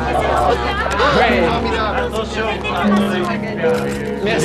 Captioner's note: all clamoring